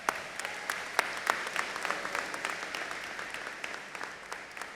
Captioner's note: audience applauding